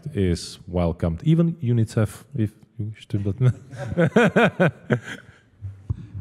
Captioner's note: laugh